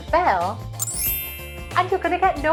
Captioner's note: tinkling